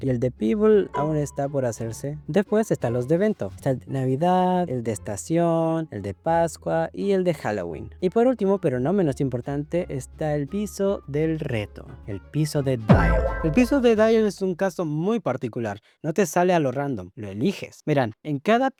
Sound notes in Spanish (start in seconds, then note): 12.9 efecto sonoro de explosión